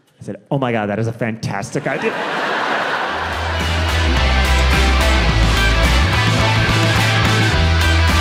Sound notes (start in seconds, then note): 1.7 audience laughing; 2.1 upbeat music